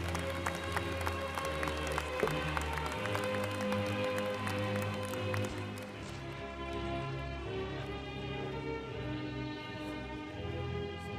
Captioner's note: applause